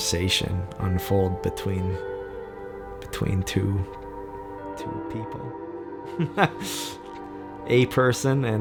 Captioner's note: laughs